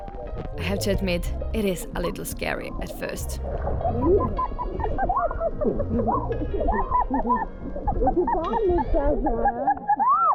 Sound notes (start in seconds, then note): 5.3 muffled laughing, squealing